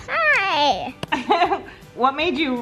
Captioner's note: laughs